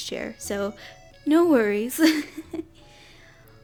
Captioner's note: giggles